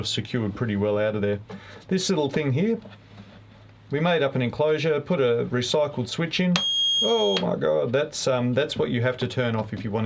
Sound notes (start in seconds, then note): 6.6 alarm beeps